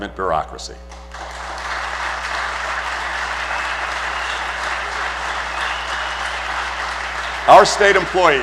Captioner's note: applause